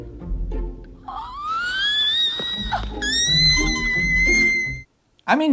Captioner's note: shrieking